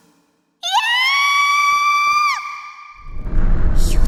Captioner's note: panicked scream